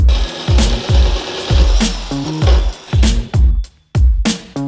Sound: drill whirring

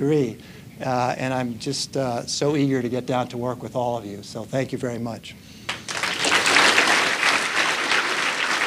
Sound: applause

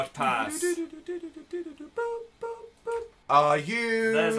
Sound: hums tune

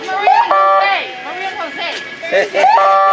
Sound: car horns honking

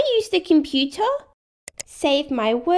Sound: click!

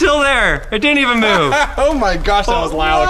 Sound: laughing

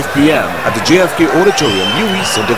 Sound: wild applause and cheering for 22 seconds

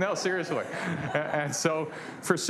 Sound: laughter

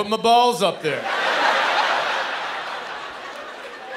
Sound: laughter

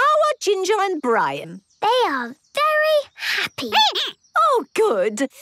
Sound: squeaking

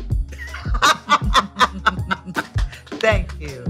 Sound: laughing

